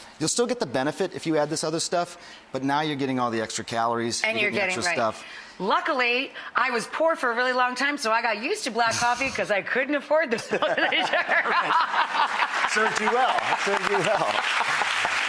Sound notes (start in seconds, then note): 10.3 laughter; 12.0 applause